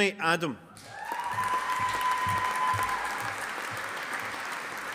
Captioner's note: audience applauding